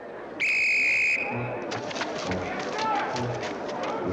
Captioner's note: whistle shrills